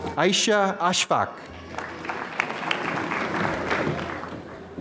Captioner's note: applause